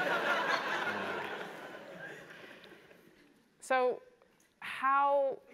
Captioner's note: laugh